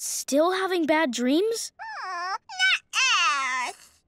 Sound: whining

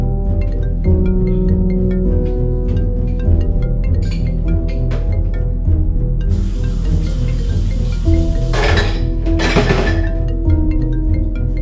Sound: phone ringing

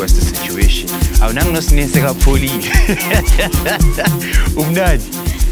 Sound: laughs

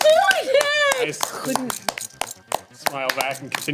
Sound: clapping

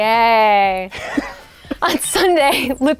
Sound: laughing

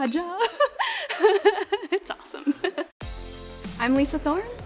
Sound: laughs

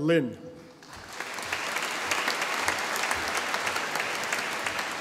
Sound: audience applauding

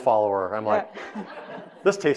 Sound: audience laughing

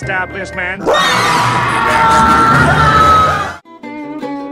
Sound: music crescendos; SpongeBob yells

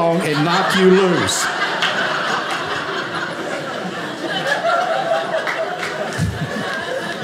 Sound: audience laughing

